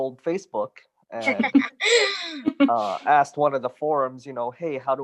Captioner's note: giggling in background